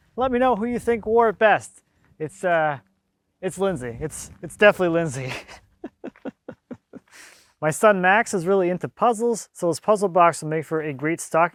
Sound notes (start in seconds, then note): 5.0 laughs